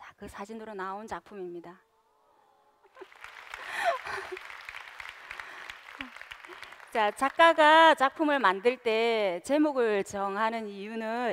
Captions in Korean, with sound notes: 그 사진으로 나온 작품입니다. (박수) 작가가 작품을 만들 때 제목을 정하는 이유는